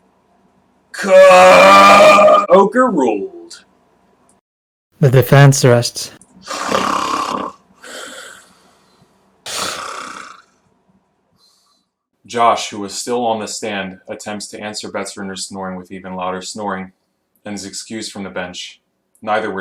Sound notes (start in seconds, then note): 9.4 snores